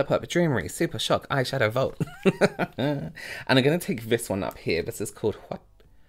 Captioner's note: laughter